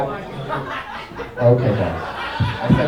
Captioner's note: audience laughing